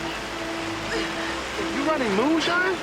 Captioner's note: Lilly gasping deeply